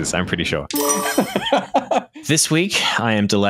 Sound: laughs

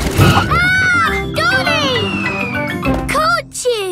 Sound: screams

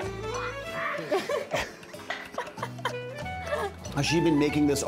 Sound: laughing

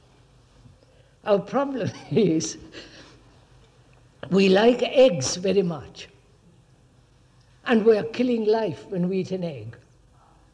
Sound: laughs

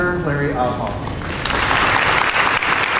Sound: applause

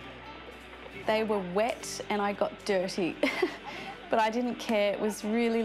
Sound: chuckles

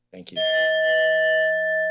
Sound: bell dings

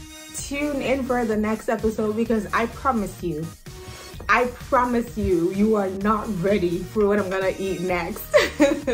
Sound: laughs

